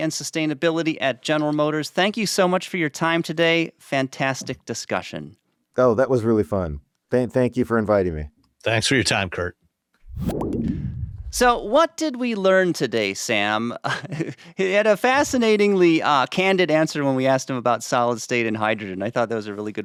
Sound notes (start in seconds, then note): 13.8 chuckles